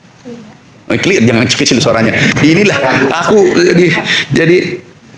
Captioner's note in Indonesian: tertawa